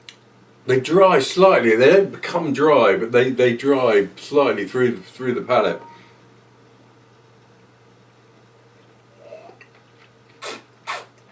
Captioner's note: slurping